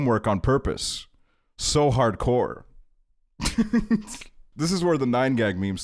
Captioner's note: chuckles